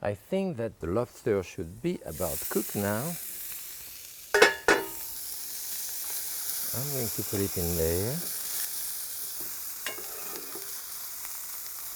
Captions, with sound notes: I think that the lobster should be about cooked now. (pan sizzles) I'm going to put it in there. (pan sizzles)